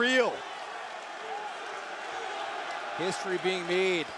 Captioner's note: crowd cheering